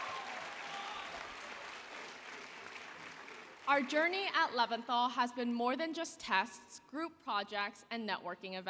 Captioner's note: applause